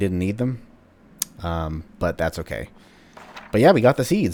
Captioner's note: journal opens